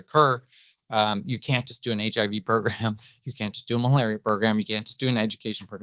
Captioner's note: laughs